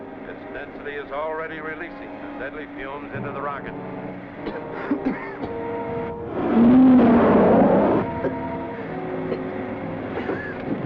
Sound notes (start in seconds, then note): 4.4 both coughing